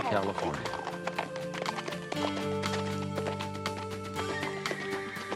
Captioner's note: horse galloping